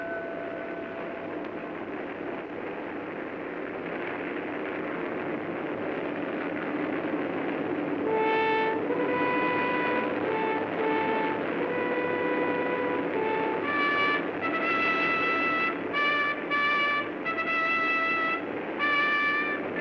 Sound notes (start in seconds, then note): 0.2 aircraft rumbling; 8.0 dramatic sentimental music; 8.0 aircraft rumbling